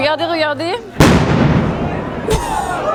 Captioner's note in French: boum